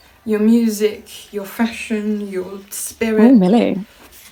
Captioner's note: Sketch audio plays